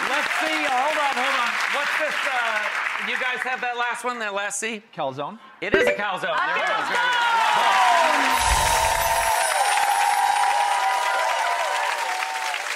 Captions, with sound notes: Let's see- hold on, what's this- do you guys have that last one, that last C? Calzone? (Bell chimes) It is a calzone! (Audience cheers)